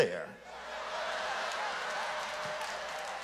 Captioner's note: audience laughs